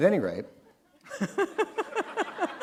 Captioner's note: laughter